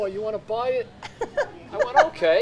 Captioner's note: laughs